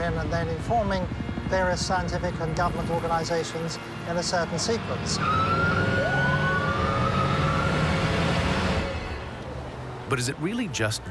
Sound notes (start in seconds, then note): 5.1 sirens